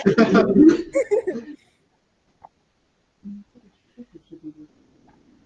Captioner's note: everyone laughing